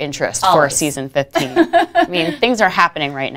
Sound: laughing

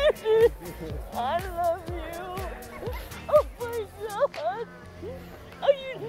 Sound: crying

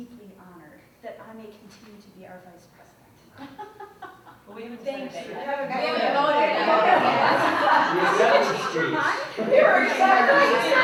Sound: chatter and laughter

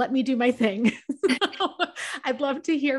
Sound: laughs

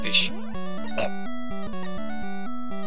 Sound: chomp

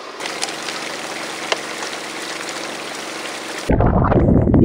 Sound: water splashes

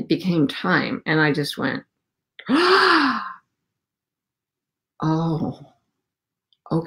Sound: sighs

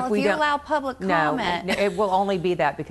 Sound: laughing

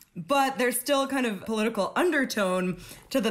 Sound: none

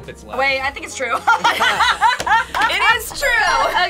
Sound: laughs

